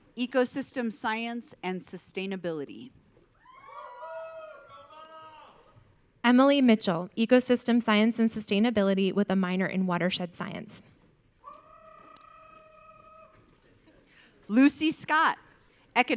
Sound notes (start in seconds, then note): 3.4 audience cheering; 11.5 audience member cheering